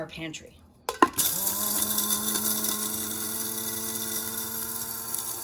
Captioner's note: blender whirs